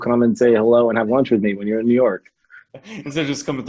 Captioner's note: laughs